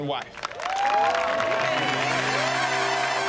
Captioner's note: applause